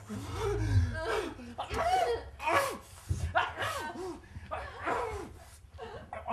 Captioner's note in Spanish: jadeo